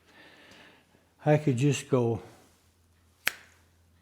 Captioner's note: snap